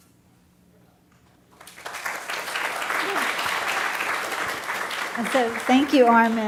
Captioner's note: audience applauding